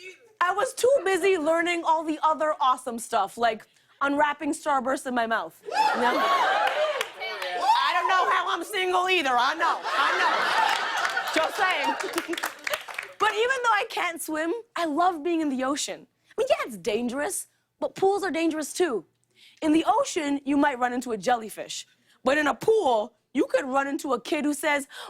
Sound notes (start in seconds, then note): 5.6 cheering; 9.6 chuckles